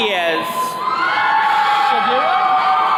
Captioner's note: attendees cheering